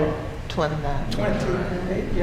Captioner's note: audience responds